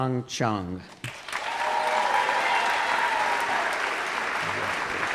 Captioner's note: applause